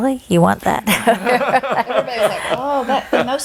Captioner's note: chuckling